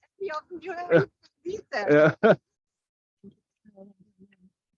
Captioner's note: audio cuts out